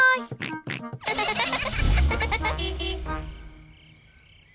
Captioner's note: giggling; horn toots